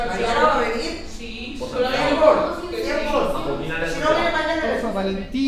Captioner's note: indistinct chatter